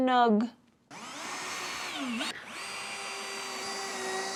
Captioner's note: drill whirring